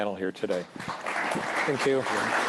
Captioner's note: applause